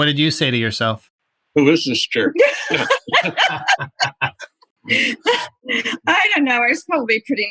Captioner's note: laughter